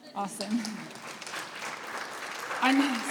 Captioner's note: applause